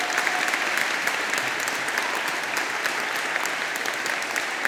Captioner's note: all applauding; people cheering